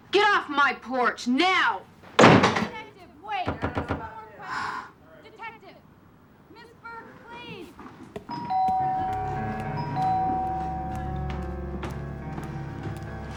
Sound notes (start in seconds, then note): 2.1 door slams; 8.3 doorbell ringing